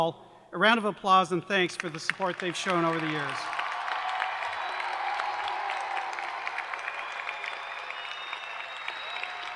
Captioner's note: cheers and applause